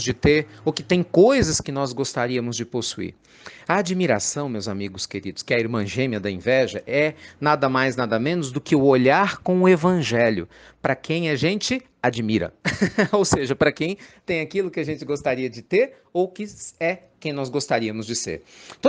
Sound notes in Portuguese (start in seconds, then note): 12.6 Risos